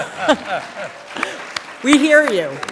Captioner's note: applause